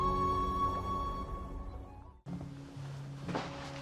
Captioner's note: water rustling; gentle music